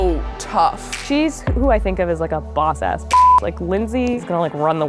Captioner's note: beep